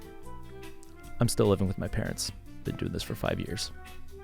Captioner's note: in a sad voice